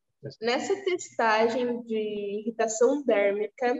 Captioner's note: speaking portuguese